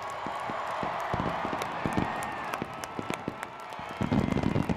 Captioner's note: fireworks